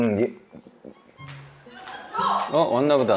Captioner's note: chatters